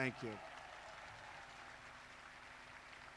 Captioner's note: applause